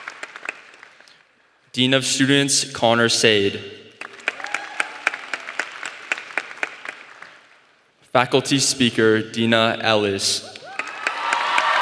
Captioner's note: applause; applause